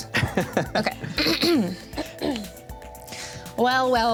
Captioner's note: several throats clear